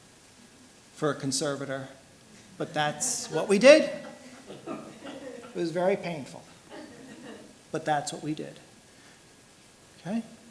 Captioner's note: laughter